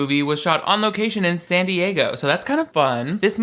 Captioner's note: none